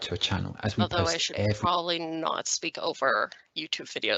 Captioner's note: YouTube Narrator’s voice playback stops